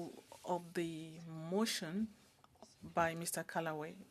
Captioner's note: speaking French